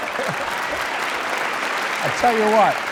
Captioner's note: laughter